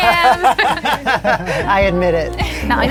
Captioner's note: laughing